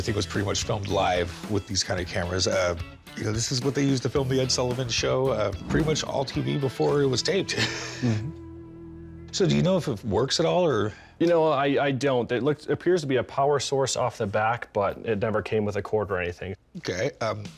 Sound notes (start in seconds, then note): 7.4 chuckles